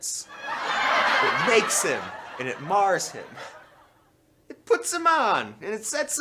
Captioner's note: laughter